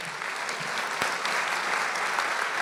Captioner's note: applause